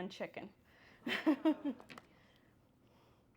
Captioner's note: laughter